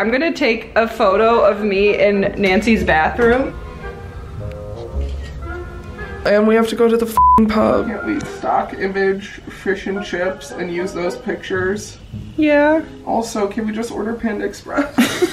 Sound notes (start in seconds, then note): 7.1 beep